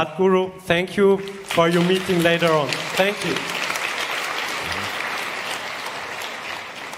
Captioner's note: applause